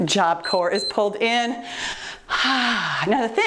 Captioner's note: timer beeps